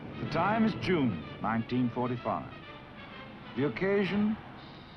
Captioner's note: voiceover